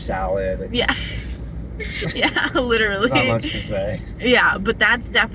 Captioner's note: laughing